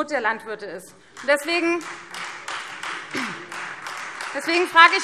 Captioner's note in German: Beifall Freie Demokraten